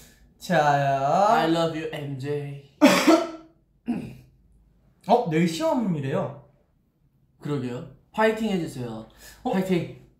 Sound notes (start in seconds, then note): 2.8 coughs